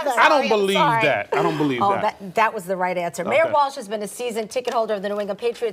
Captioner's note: laughter